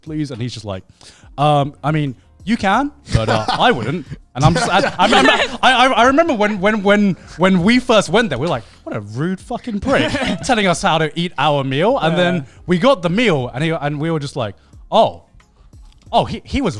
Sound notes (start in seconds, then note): 3.0 laughing